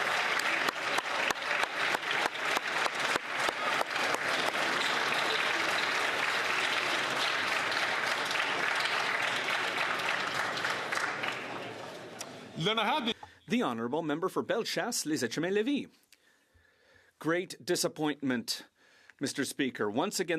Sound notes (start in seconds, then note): 2.8 some Applause